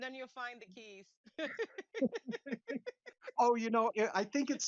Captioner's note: laughing